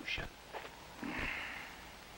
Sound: sigh

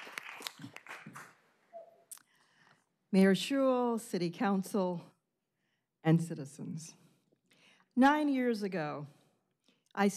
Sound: applause

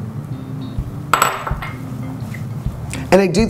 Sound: clanking

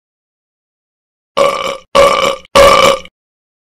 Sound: burping

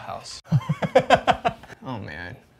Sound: laughs

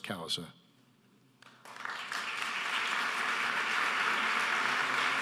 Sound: audience applauding

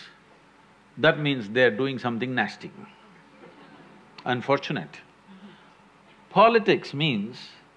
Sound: few laugh

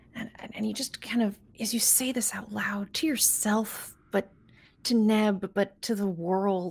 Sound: none

